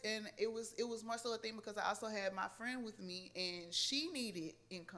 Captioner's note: none